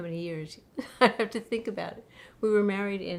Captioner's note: laughs